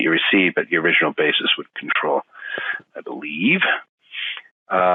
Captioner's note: tutting